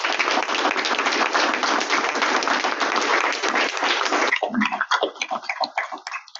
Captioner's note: audience Clapping